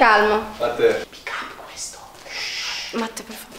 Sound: whispering

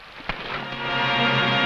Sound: fist smashing; dramatic music

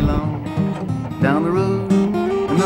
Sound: rustling

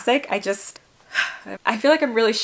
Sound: exhales

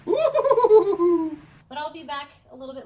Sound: laughing

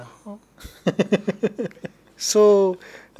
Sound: laughs

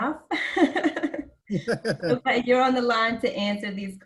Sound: laugh

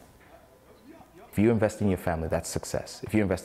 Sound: none

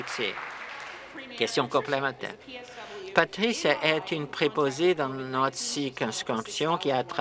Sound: applause

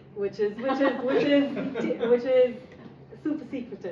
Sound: laughing

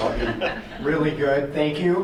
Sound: group laughing

